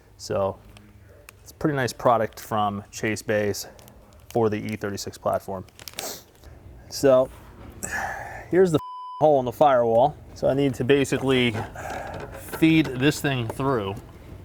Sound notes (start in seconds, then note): 7.8 exhales; 8.8 beep